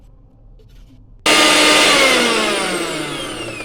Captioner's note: mixer Sound